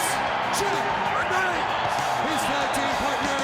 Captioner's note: crowd cheering